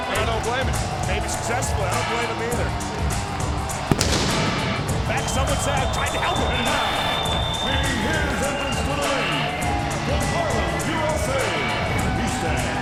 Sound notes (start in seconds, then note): 4.4 fireworks booming